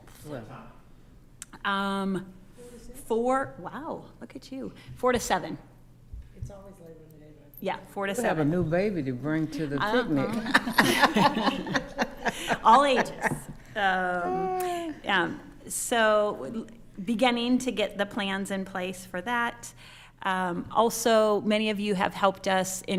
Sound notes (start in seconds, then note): 10.1 attendees laughing; 13.6 laughing